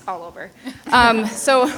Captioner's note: people laughing